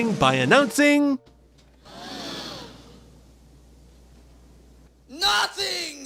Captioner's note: gasps